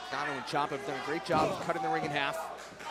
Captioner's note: crowd chatter